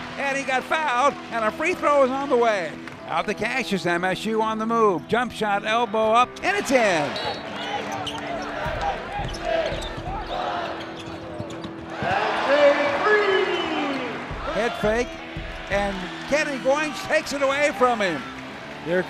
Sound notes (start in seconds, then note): 6.5 crowd cheering